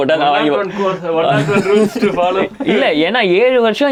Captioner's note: group laughing